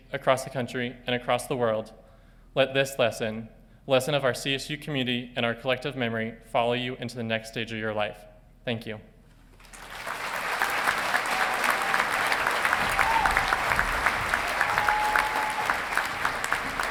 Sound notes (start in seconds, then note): 9.6 audience applauding and cheering